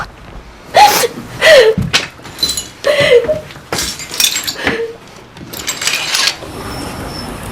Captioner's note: crying